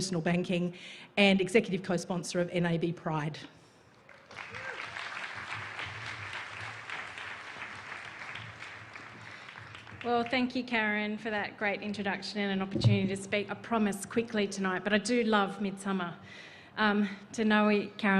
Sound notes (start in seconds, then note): 6.1 applause